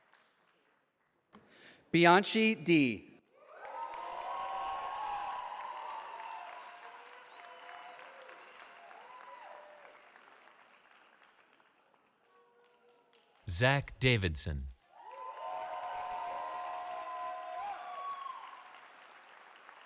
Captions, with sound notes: Bianchi Dy. [CHEERING] Zak Davidson. [CHEERING]